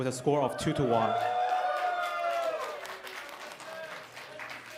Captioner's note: applause